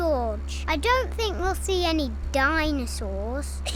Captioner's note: all giggle